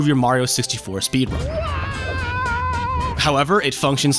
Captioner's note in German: Mario jammert hilflos